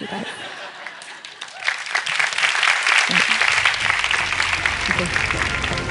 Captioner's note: Applause; 掌聲